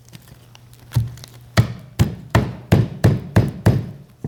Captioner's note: hammer pounding